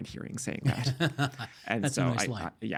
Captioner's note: chuckling